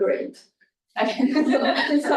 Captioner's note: laughter